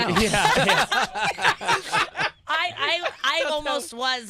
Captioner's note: laughter